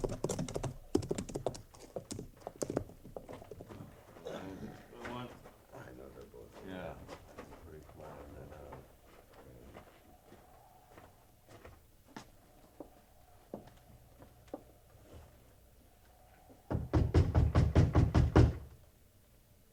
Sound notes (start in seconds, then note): 0.0 footsteps; 10.0 footsteps; 16.7 knocking